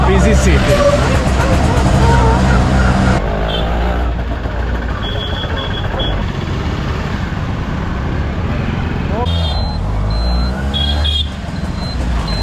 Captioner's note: traffic